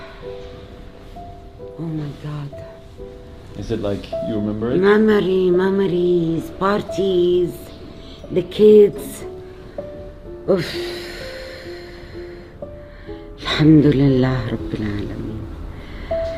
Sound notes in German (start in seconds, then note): 10.9 schluchzt